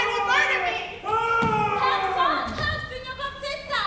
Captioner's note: Grumio shouting